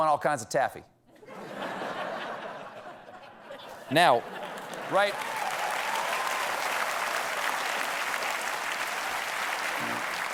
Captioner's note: laughter; cheers and applause